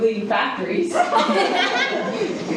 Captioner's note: laughing